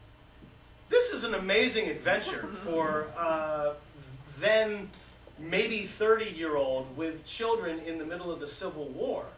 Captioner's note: laughter